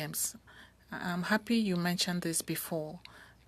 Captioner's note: speaking French